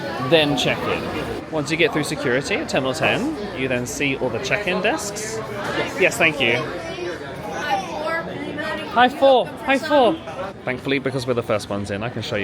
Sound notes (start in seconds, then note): none